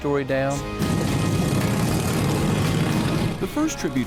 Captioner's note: engines revving